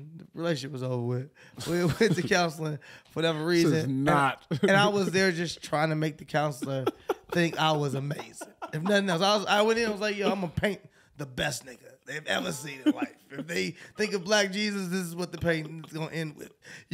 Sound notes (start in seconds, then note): 1.6 chuckling; 8.8 laughing